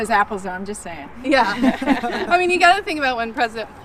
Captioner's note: laughs